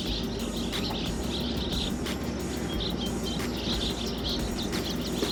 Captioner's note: birds chirping